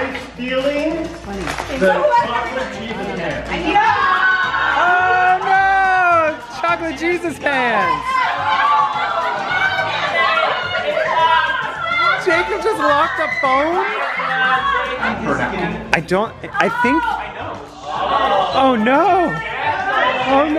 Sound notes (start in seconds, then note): 8.6 yelling